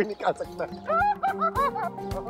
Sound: laughing

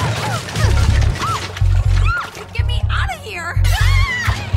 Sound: all groan; shouts

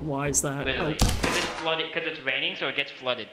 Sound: splat

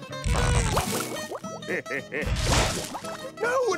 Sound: laughing

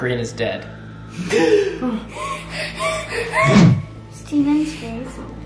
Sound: gasping

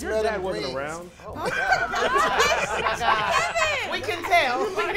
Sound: laughing

